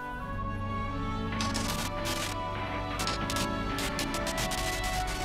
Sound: static buzzing

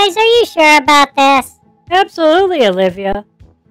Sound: nervously; cheerfully

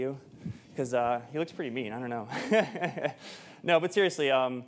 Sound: chuckles

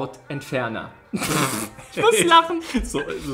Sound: laughs

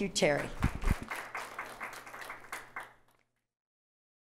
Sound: audience applauds

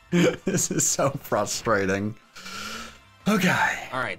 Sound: chuckling; inhales deeply

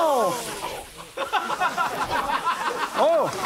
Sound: audience laughs

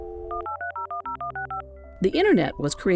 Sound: dial up modem sound

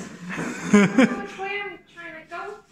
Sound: ugly giggle

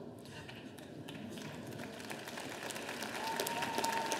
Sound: audience applauding

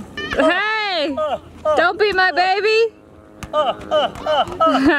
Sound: laughs

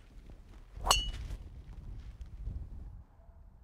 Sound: ping!

